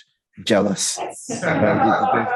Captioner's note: laughing